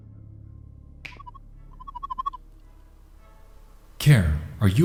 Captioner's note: warbling sound